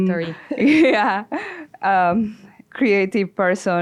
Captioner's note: laughs